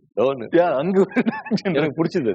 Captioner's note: laughs